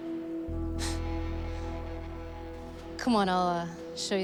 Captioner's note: chuckling